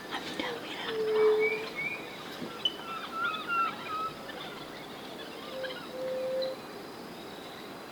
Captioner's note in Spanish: Monos eufóricos